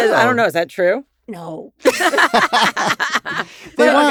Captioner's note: in usual tone; laugh